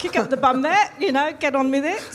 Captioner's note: laughs